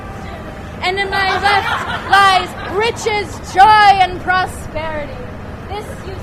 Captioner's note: laughter